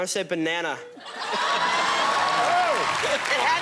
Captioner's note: laughter